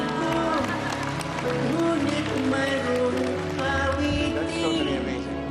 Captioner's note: applauding